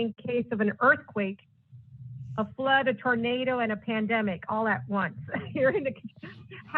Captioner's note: laughter